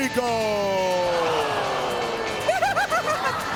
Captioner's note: laughs